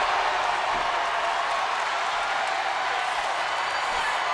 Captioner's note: audience cheering